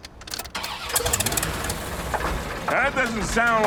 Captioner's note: engine clunking